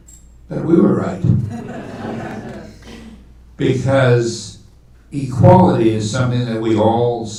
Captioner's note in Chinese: 听众笑